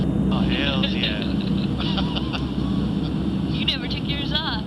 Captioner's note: laughter